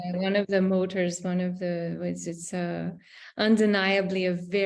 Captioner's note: audio blurs